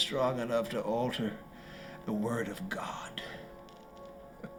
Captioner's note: chuckling